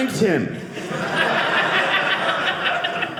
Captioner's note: audience laughing